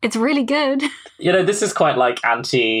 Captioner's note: laughs